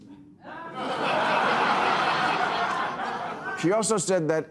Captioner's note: audience laughing